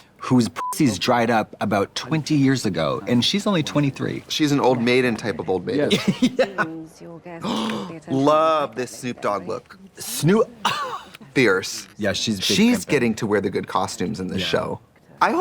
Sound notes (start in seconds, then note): 0.6 beep; 5.9 laughing; 10.2 laughing